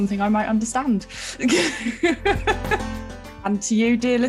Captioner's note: laughing